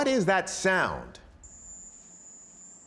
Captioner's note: high-pitched chirping